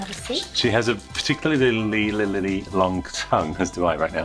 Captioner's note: stutters